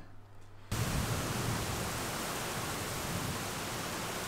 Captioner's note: rain pouring